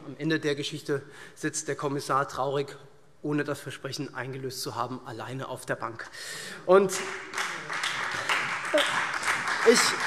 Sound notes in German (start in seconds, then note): 6.8 Beifall SPD